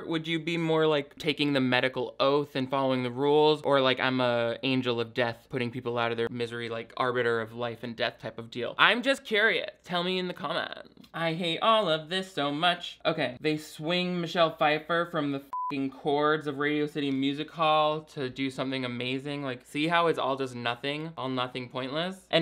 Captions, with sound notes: would you be more like taking the medical oath and following the rules or like I'm a angel of death putting people out of their misery, like arbiter of life and death type of deal? I'm just curious, tell me in the comments. I hate all of this so much. Okay, they swing Michelle Pfeiffer from the (beep) cords of Radio City Music Hall to do something amazing. Like, see how it's all just nothing, all nothing pointless